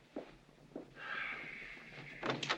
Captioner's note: sighs; door opens